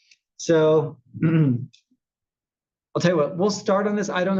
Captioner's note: cough